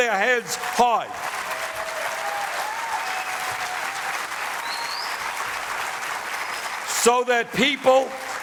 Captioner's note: applause